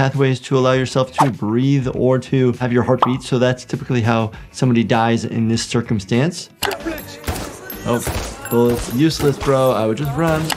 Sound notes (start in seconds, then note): 7.9 gun firing